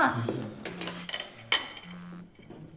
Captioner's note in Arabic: مكالمة واردة